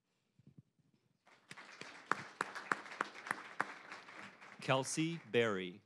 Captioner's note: applause